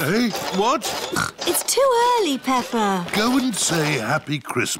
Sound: snorts

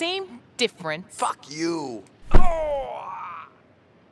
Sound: thud

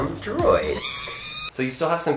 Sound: motor running

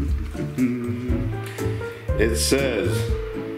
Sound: hums

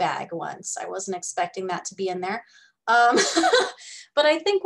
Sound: laughs

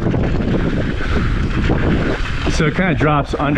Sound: wind whipping

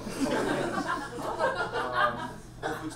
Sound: audience laughs

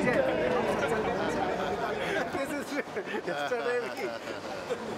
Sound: laughing

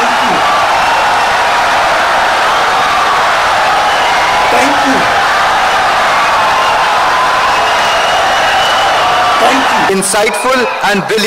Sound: wild applause and cheering for 17 seconds

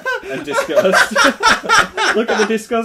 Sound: laughter

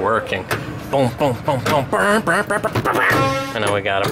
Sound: revving impressions

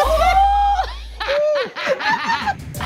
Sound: laughter

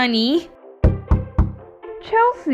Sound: knock! Knock! Knock!

